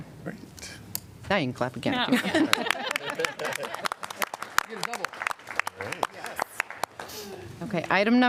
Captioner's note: laughter